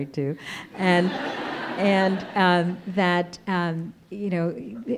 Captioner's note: audience laughing